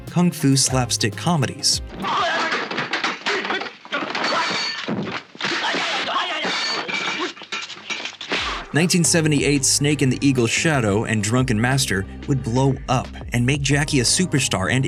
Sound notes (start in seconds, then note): 2.0 exaggerated kung fu exclamations